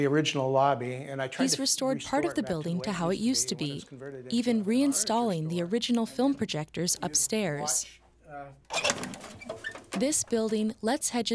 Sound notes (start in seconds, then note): 8.7 film canister opening